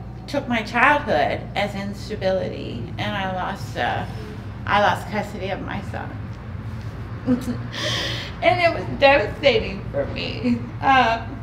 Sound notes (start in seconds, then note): 9.6 crying